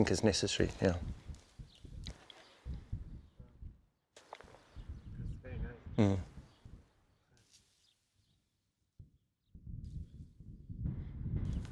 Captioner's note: kuşlar civiltiyor